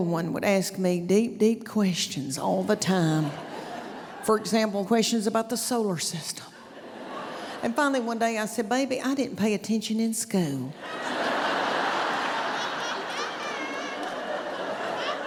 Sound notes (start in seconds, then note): 10.8 laughter